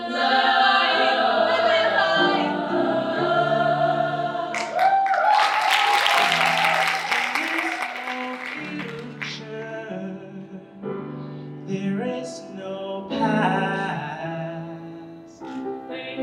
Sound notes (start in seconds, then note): 4.5 audience cheering and applauding